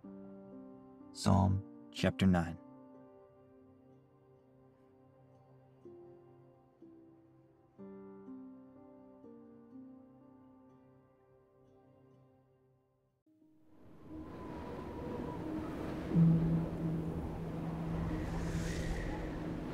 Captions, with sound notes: Psalms chapter nine. (gentle music) (wind blowing) (gentle music)